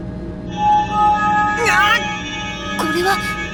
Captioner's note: pained cry